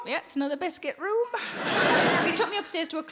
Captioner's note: crowd laughs